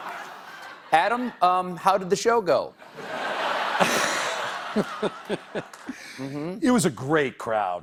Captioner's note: laughter; laughter